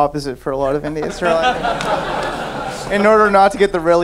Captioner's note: laughing